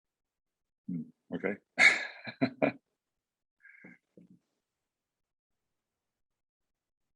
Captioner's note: laughs